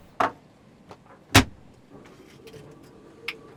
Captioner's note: Theo closes compartment